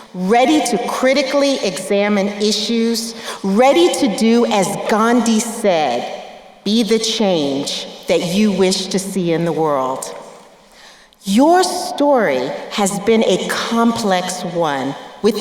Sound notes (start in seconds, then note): none